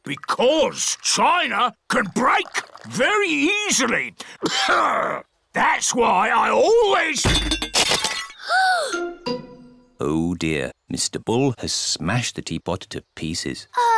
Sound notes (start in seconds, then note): 4.4 clears throat; 7.9 peppa gasps